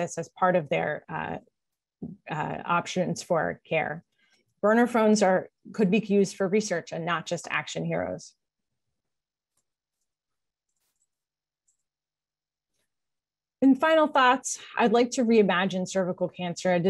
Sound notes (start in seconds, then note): 8.4 silence